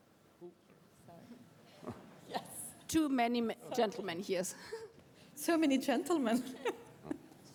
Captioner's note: laughter